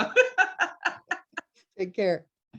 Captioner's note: laughs